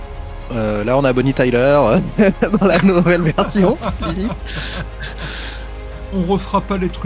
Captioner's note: laughs